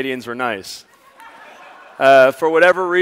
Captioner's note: audience laughs